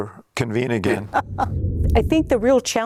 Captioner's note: laughs